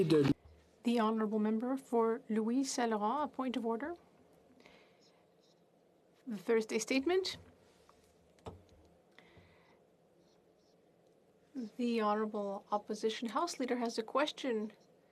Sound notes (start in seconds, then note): 2.3 speaking French